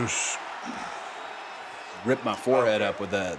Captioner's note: audience cheering